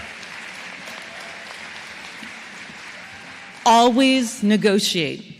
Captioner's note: applause